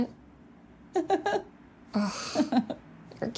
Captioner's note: Michelle laughs